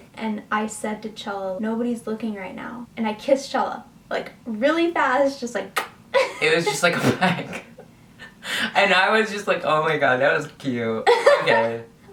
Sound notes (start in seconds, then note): 5.8 kisses